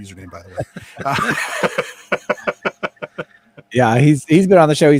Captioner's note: laughing